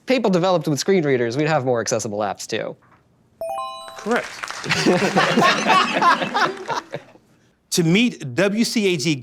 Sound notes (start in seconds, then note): 3.4 beeping; 4.6 laughter